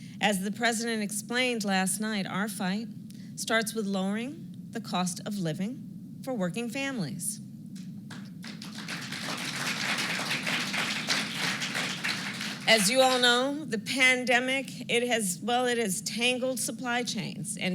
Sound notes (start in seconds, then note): 8.0 applause